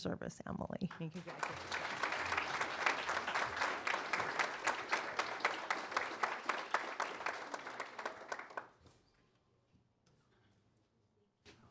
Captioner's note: applause